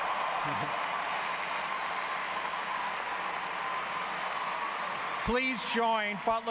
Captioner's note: applause